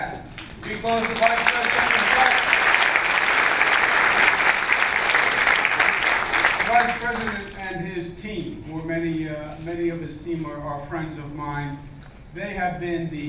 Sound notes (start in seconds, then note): 2.8 clapping